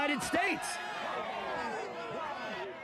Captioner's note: crowd shouting indistinctly